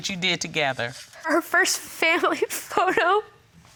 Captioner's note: sobbing